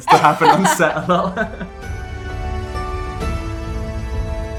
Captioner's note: laughs